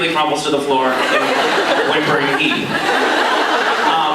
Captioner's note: laughs